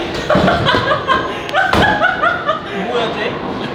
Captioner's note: the audience stirs again